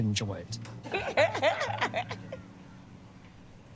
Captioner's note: laughing